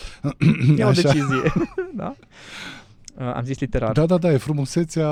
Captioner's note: laughter